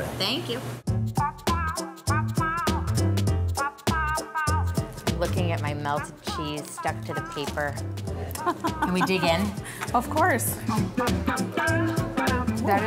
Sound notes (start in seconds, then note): 1.3 upbeat music; 8.2 laughing; 10.0 upbeat music